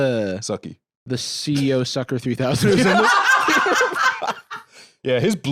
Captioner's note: all laughing